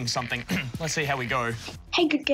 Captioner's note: clears throat